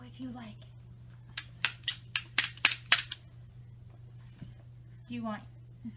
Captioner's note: toy claps